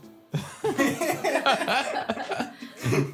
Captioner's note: laughs